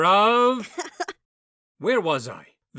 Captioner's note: bow laughs